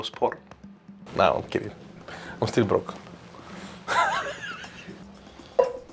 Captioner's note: laughs